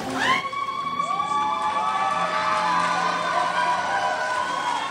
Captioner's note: crowd cheers